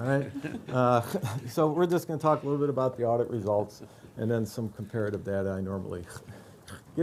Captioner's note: laughter